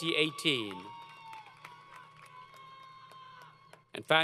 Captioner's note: applause & Cheering